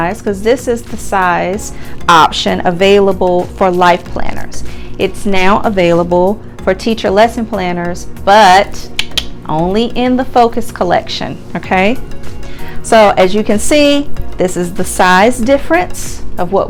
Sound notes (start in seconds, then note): 8.9 clicks tongue